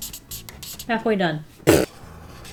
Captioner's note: laughs